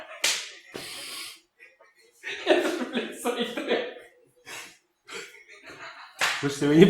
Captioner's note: chuckles; chuckles